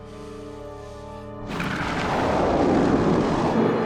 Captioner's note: missile whooshing